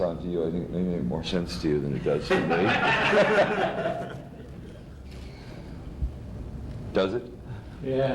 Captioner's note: much laughter